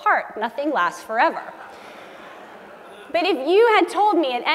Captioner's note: laugh